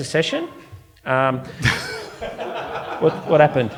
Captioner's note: audience laughing